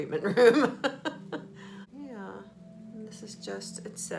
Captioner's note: laughing